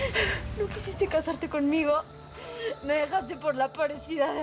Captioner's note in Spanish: Sollozos